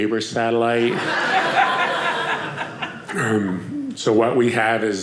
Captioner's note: audience laughing